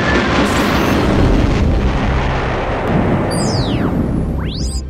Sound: sound Effects

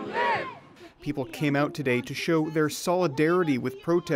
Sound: chants

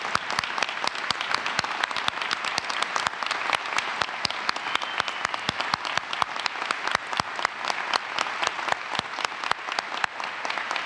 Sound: applause

